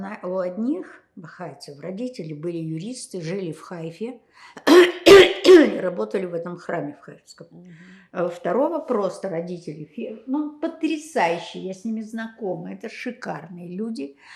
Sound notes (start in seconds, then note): 4.7 clears throat